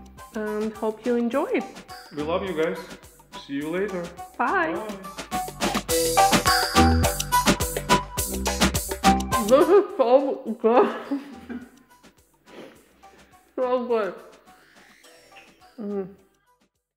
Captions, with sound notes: Hope you enjoy. - We love you guys. See you later. - Bye. - Bye. (upbeat music) - This is so good. (laughs) So good.